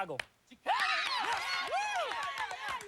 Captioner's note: cheering